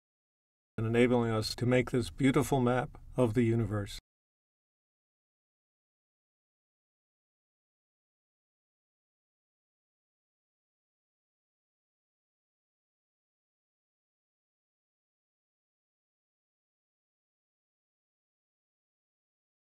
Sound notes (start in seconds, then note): 4.2 silent